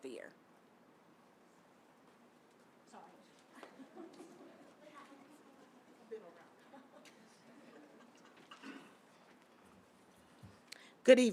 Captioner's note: silence